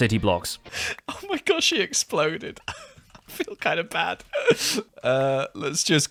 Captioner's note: nervous laugh